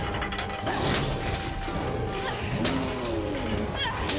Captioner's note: glass shattering